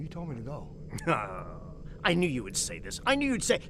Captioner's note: groans